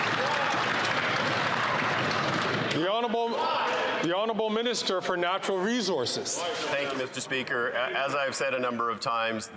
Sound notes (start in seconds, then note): 2.3 applause